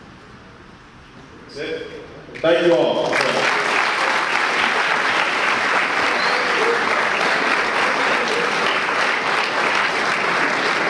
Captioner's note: audience applause